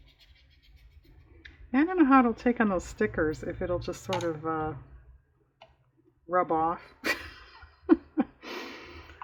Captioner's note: laughs